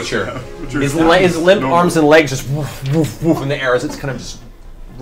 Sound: thumping

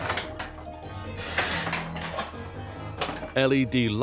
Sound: pinball machine clattering and beeping

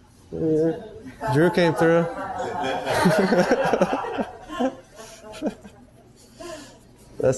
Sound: laughs

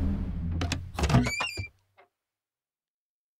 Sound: door opening

